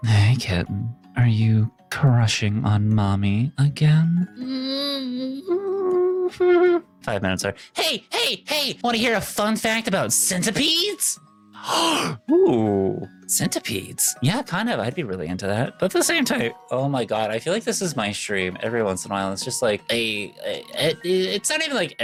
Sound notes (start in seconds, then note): 5.3 whimpering; 11.5 gasps